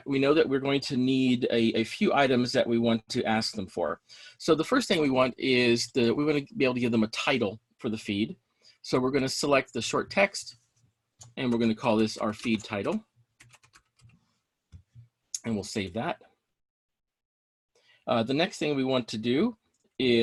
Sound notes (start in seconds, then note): 13.4 keyboard clicking